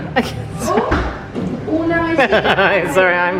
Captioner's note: both laughing